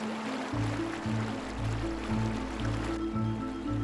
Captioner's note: running water